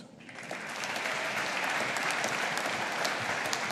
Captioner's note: audience applauding